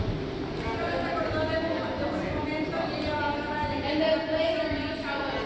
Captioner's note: Murmullo; chattering